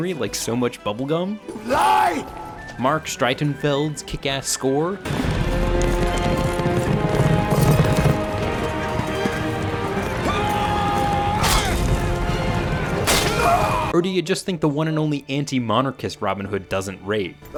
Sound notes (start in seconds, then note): 5.0 hoofs pounding; 5.3 adventurous music; 13.0 swashbuckler yelling and slashing